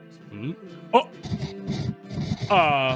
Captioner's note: stammers